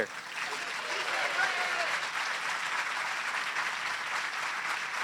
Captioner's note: non-english speech; applause